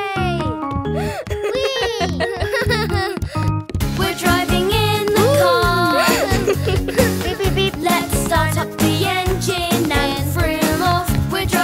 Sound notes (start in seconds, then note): 1.2 both laughing